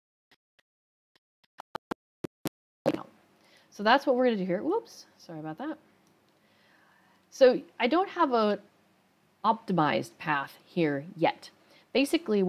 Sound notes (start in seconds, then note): 1.1 microphone noise